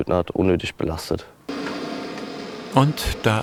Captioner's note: hissing sound